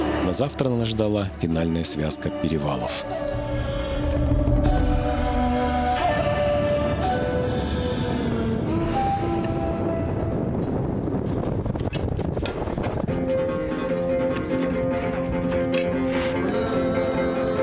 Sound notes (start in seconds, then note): 6.4 wind